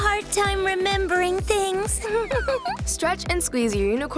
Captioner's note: laughing